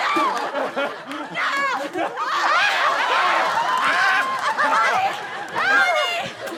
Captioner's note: screams